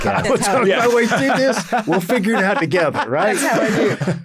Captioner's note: laughs